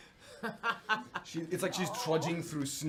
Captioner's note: laughter